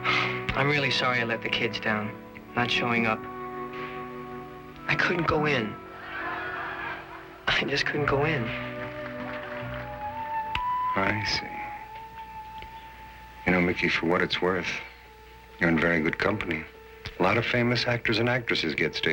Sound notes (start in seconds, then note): 6.0 laughter; 8.1 applause